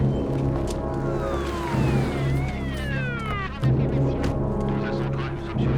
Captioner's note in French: Sirènes, bavardages policiers